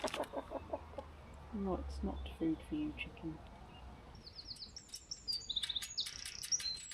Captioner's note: insistent clucking